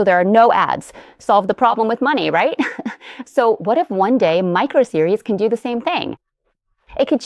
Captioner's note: laughs